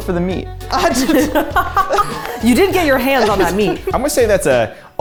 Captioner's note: laughs